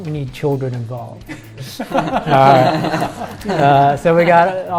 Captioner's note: all laugh